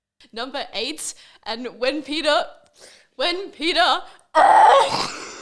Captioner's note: screams, then chokes, laughs and cries all at the same time